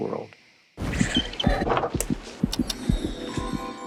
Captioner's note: heart beating